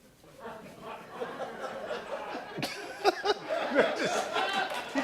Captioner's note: laughter